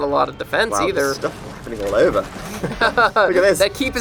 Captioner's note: laughter